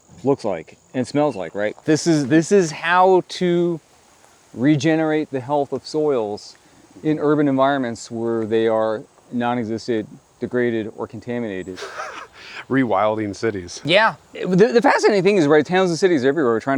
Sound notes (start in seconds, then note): 11.6 laughs